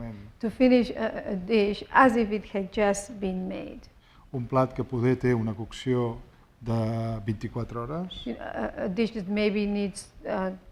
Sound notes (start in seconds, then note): 4.9 speaking spanish